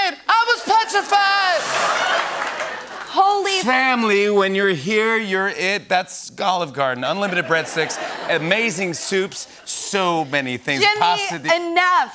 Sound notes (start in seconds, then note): 1.6 laughter